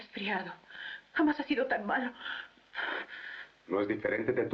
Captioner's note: sniffling